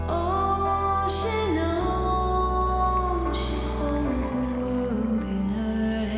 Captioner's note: none